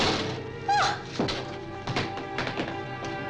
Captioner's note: door bangs; Tara gasps